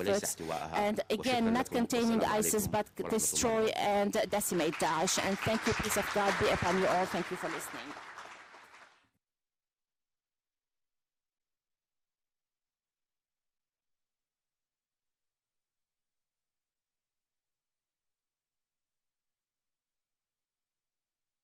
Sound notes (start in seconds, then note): 8.3 applause; 9.7 silence